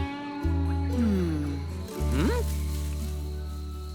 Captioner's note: sighs softly